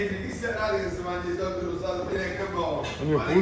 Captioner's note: indistinct chattering nearby